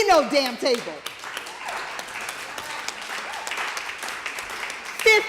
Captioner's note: applause